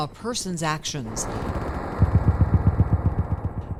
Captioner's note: helicopter rumbling muffling; gunfire rumbling muffling